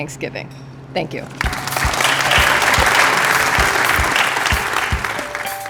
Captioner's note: applause